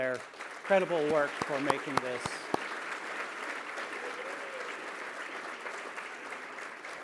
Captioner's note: applause